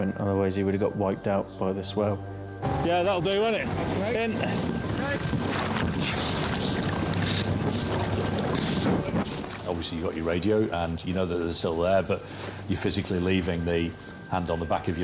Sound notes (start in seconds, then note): 2.6 lifeboat engine whirring; 4.8 grunts; 6.5 water splashing